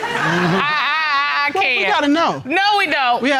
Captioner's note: stammers